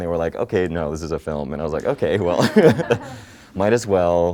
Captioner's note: laughter